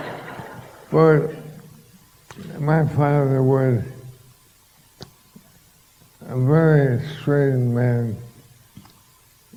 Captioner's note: laughter